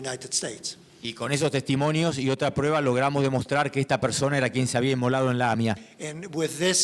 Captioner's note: speaking in foreign language